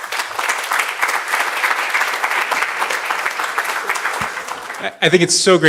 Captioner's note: applause